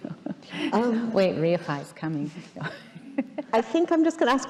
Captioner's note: laughing